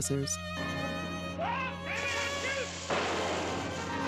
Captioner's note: gun firing; dramatic music